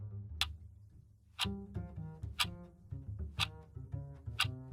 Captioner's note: clock ticking